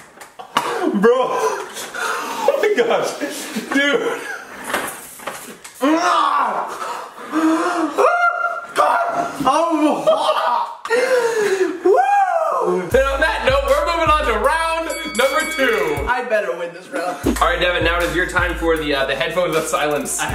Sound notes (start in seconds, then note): 0.7 choking sound; 5.8 inarticulate yell; 8.3 inarticulate yelling; 10.8 gasp